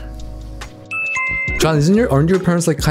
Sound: bell jingling

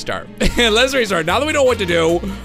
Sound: wheeze

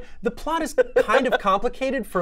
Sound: laughs

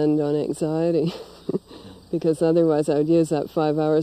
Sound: laughs

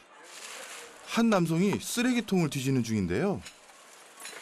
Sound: rummaging

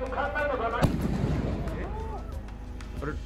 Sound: gunshot booms

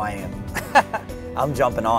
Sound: laughs

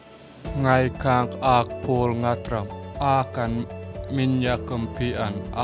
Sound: speaking in foreign language

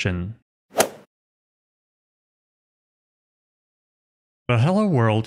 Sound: golf ball hit sound effect

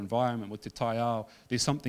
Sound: speaking in foreign language

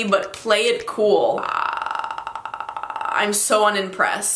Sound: umming

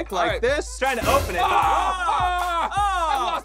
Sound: both screaming

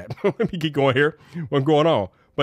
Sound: chuckles

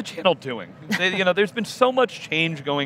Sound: laughs

